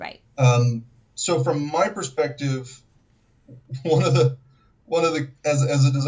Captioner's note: chuckles